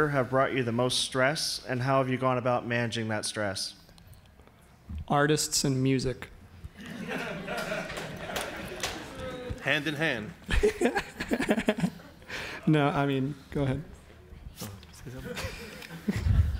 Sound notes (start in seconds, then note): 6.7 audience laughs; 11.5 panel laughs; 15.1 audience laughs